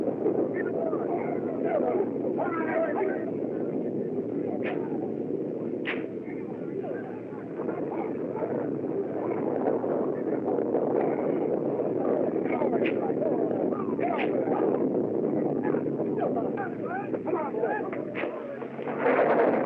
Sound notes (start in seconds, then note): 14.5 whip Cracks Continue